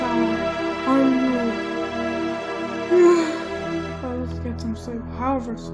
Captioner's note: yawns